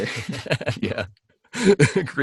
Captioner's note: laughs